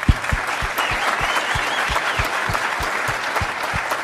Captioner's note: applause